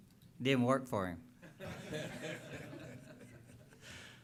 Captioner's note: laughter